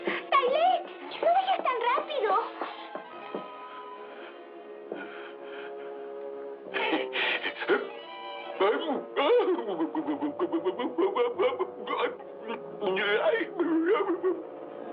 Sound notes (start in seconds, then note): 3.1 panting; 8.7 gasps, Muttering